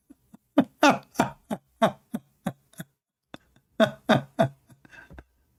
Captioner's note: Ketawa